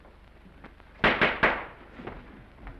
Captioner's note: gavel bangs